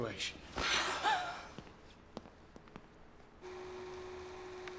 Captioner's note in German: schnappt überrascht nach Luft